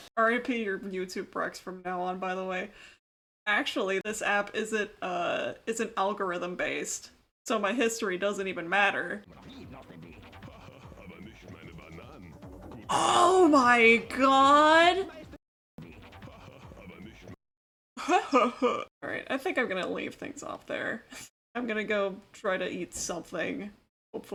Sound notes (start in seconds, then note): 10.6 Scuffed Donkey Kong laughter; 15.9 Scuffed Donkey Kong laughter; 18.0 feeble attempt to imitate the scuffed Donk